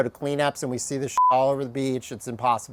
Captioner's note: beep